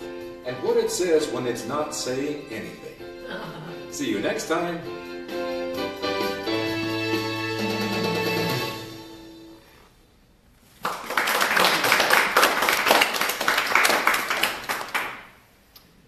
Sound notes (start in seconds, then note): 10.7 applause